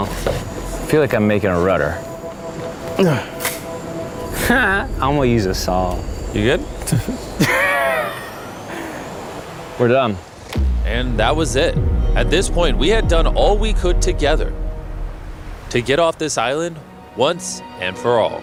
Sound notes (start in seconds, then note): 4.2 laughs; 7.0 wheezing laugh